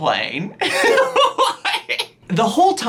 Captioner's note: laughs